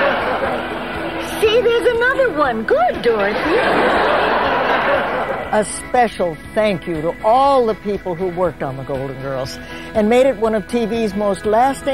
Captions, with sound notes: See, there's another one, good, Doris. (audience laughing) A special thank you to all the people who worked on "The Golden Girls" and made it one of TV's most lasting